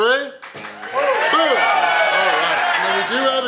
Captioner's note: audience cheering